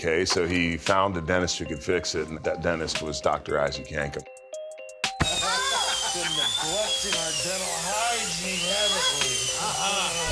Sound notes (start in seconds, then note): 5.2 drill whirring; 5.2 Jerry laughs